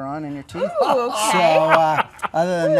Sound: laughing

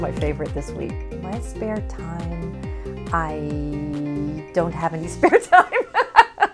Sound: laughs

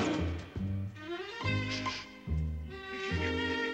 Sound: sniffs

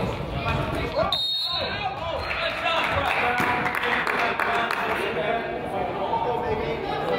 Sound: whistle blows; crowd applauds

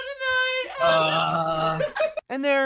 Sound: in Hebrew; SONIC groans

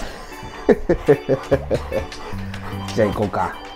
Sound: laughs

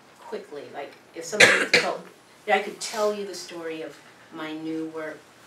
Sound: cough

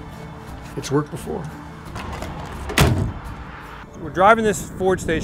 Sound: door shutting

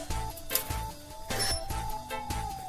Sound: gate opening; siren

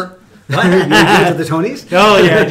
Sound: laughing

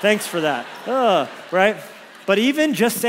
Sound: congregation laughs

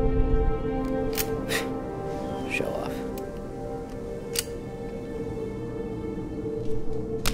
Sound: gun clicking

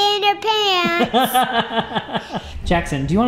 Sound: laughs

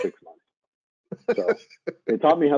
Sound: laughing

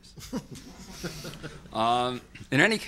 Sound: laughter

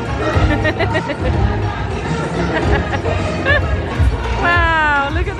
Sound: laughing

